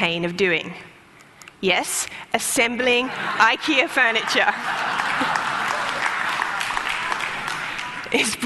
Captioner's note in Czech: Smích; Potlesk